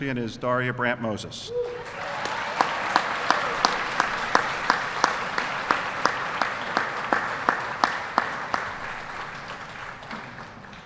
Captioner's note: applause